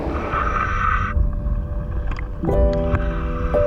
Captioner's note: heavy breathing